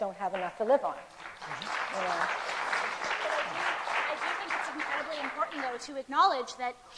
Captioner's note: applause